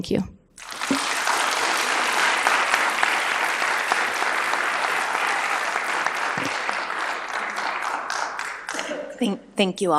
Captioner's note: applause